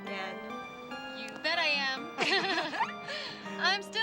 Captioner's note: laughs